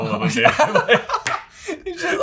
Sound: both laugh

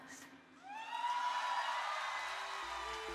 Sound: applause

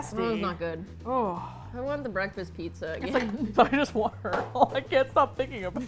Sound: both laugh

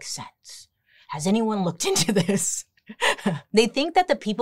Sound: chuckles

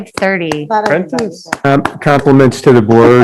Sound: clapping

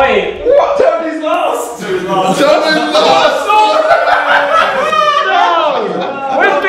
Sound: laughter

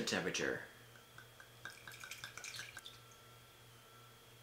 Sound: liquid pouring

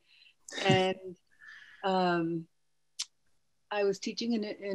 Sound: person chuckles

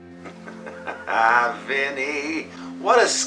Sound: chuckles

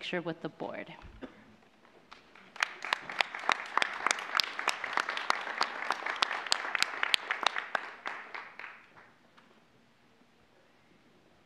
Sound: applause

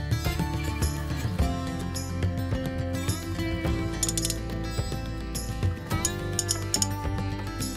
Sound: gears clicking

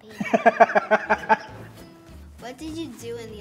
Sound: laughter

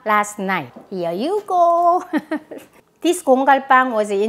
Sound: laughs

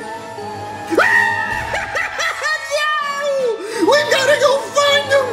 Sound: screams

